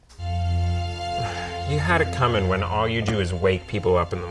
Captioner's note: sighs